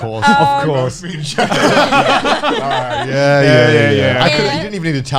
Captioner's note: laughing